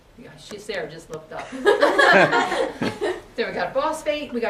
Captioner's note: students laugh